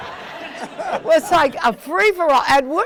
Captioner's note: attendees laughing